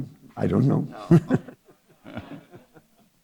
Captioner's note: chuckles